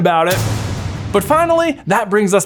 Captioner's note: ominous crashing